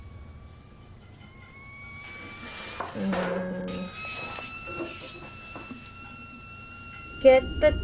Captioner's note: tea kettle whistling, getting louder